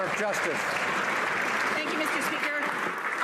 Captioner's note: some Applause